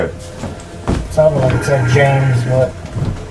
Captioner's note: eerie music; footsteps thudding